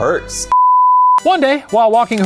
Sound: beep

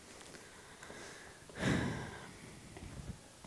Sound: deep breath

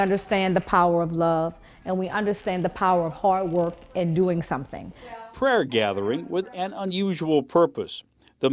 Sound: applause

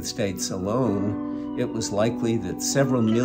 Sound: sirens blaring

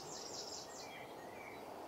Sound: wind blowing

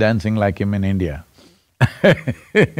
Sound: laughs

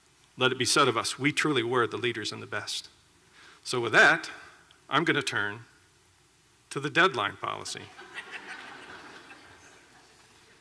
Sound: applause

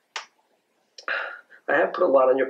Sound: dad sighs

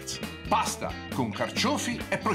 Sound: foreign language

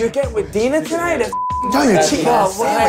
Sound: beep

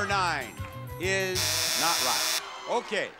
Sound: electronic buzz

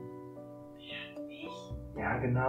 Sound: whispering

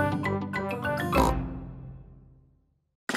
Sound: snort

